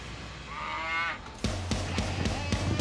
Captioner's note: steer moos